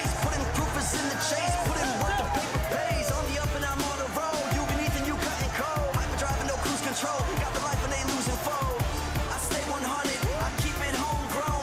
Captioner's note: crowd cheering